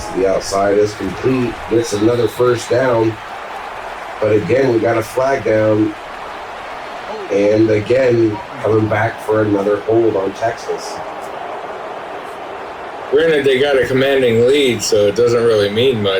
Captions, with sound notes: As the outside is complete, it's another first down. But again, we got a flag down. And again, coming back for another hold on Texas. [Crowd Noises] We're gonna they got a commanding lead, so it doesn't really mean much.